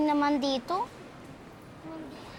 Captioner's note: none